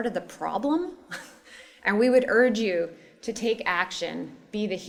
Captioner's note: laugh